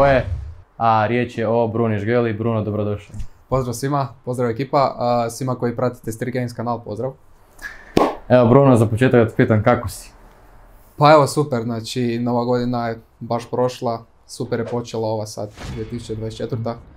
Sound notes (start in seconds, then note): 7.6 clap